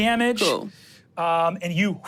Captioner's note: gasp